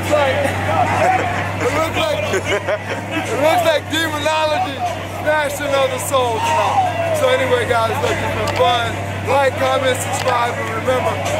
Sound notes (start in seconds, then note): 0.3 laughs; 1.8 crowd chatting